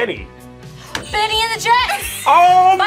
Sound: buzzer rings; gasps

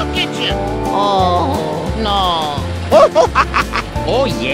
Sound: Luigi noises

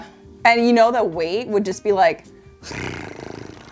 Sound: purrs

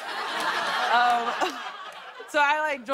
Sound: laughter

